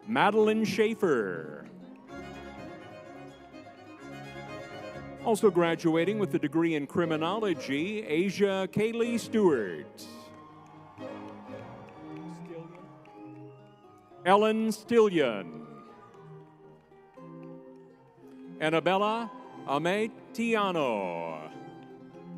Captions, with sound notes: Madilyn Shaffer. (lively music) Also graduating with a degree in criminology, Asya Kaylee Stewart. (crowd cheering) Stillion, Ellen Stillion. Anabella Aimee Tiano.